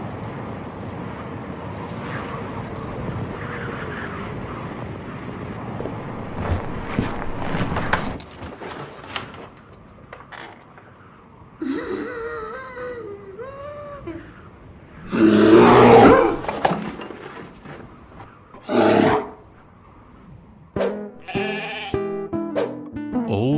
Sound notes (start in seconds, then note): 0.1 wind howling; 11.6 gasps; 15.0 growls; 18.6 growls; 21.2 bahhing